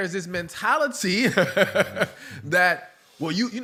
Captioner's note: laughter